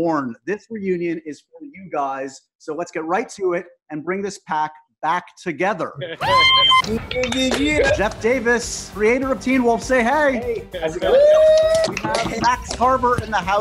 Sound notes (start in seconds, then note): 6.2 cheering